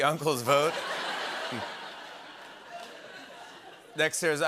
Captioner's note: laughter